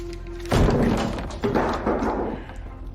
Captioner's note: loud thud